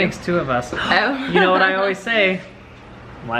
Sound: laughs

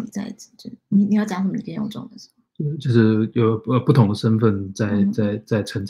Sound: speaks mandarin

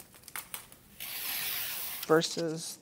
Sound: strip scrapes

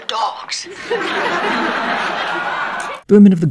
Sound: audience laughter

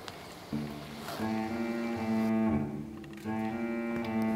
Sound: stove clicking; water bubbling softly; soft music

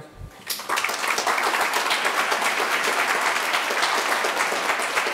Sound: audience applauding

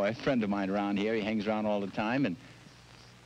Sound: none

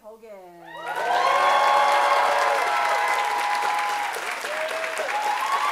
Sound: audience applauding and cheering

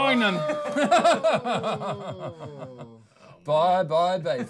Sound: laughing

